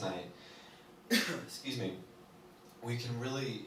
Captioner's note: coughs